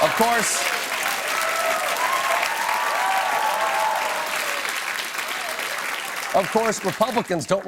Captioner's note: cheers and applause